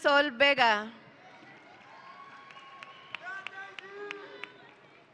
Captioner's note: audience cheering